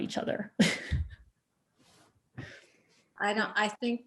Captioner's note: chuckles